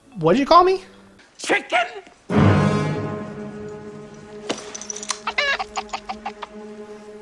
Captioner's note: chicken clucking noise